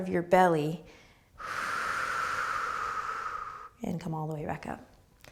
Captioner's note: exhaling